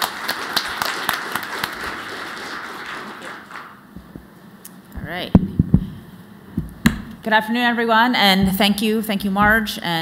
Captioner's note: applause